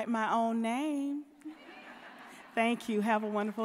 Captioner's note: audience laughing